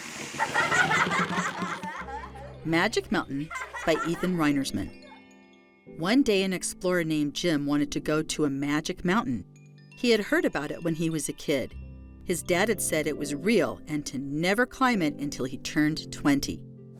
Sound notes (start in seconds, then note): 1.8 children laughing; 1.8 logo whooshing